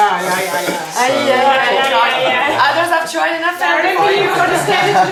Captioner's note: family chattering